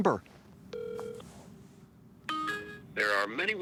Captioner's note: phone ringing